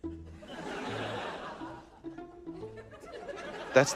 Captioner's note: laughter